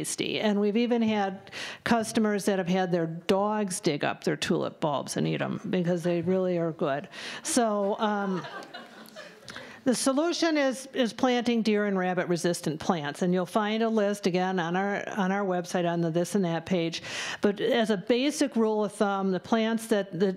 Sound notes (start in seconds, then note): 6.2 laughter